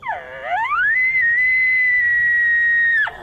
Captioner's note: horn blowing